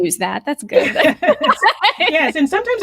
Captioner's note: laughing